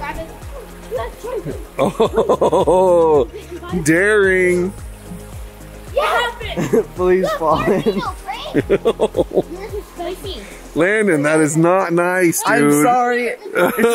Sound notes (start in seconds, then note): 1.7 laughs; 8.3 laughs